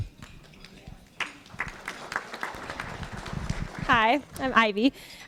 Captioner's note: applause